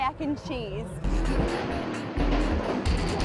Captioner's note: engines revving